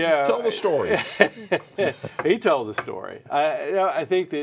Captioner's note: laughs